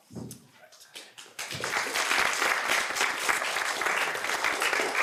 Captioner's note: applause